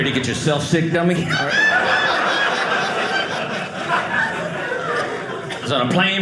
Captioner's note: audience laughing